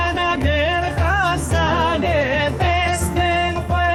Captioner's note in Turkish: Ayakları yere vuruyor